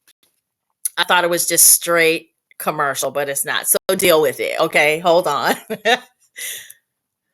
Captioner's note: chuckle